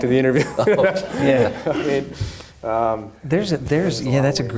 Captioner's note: audience laughing; laughing